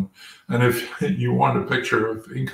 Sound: laugh

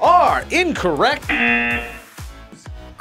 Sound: buzzer rings

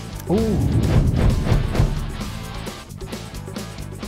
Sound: upbeat rock music; whooshing

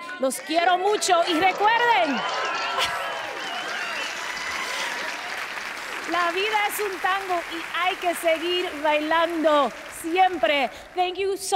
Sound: speaking Spanish

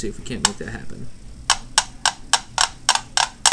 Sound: rhythmic clacking

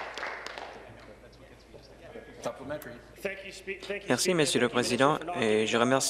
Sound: applause

